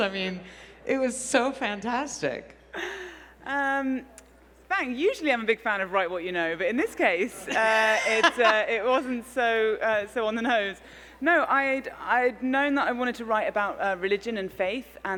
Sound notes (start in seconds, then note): 6.9 laughs